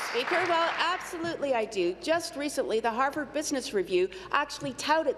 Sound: applause

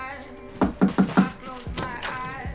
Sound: knocking at door

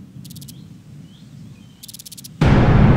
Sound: birds chirping

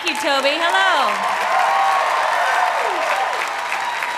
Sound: cheering and applause

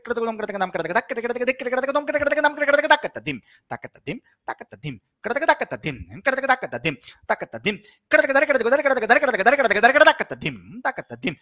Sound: speeding up syllables

